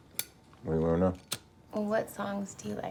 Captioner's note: lighter clicking